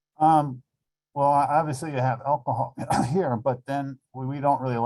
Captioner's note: coughs